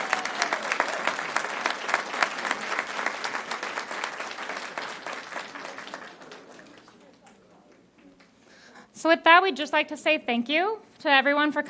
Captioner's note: applause